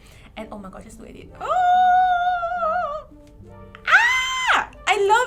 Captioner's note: screams in joy